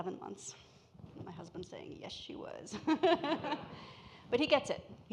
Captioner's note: laughs